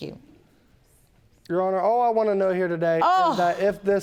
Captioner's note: judge lake groaning